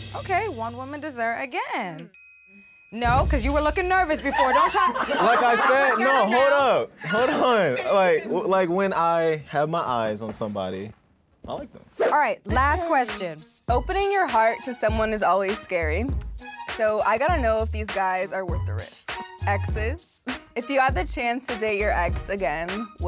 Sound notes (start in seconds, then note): 4.2 group laughs